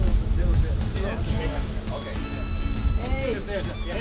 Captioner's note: all chattering